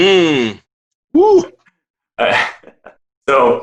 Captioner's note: grunts thoughtfully; exclaims